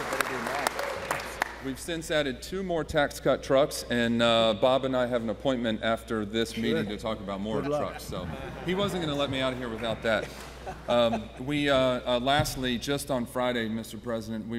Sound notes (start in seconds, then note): 8.2 laughter